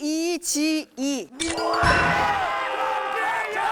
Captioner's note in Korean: 딩동댕 소리